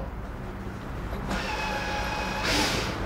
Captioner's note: drilling noises